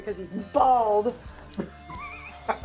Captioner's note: all laughing